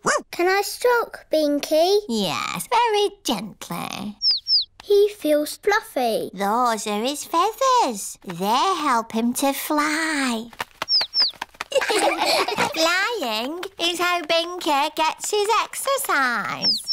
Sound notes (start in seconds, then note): 4.2 chirping; 10.8 chirping; 11.7 laughter